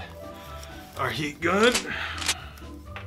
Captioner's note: gun cocks